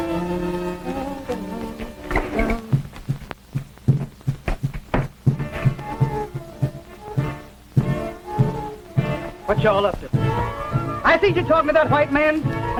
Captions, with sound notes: (Chloe humming) (tense suspenseful music) - What y'all up to? I see you talking to that white man,